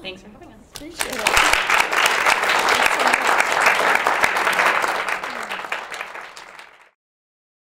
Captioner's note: applause